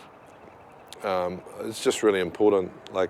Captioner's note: none